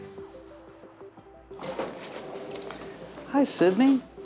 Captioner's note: door slides open